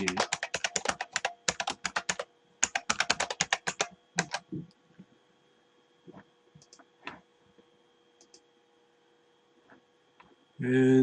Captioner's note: typing